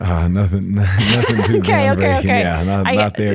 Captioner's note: laughs